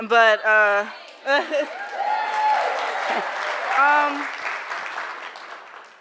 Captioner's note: audience laughing and cheering